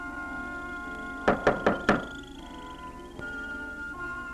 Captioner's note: knocking harder